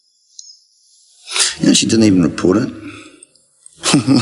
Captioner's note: laughs